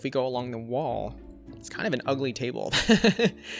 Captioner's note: laughs